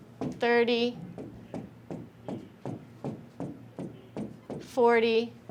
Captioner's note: stylus clacking